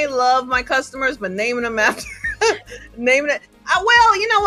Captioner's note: laughs